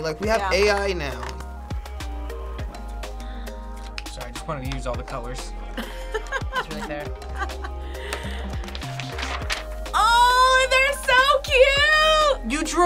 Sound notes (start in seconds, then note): 5.8 React laughs